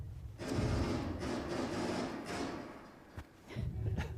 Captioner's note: gun shots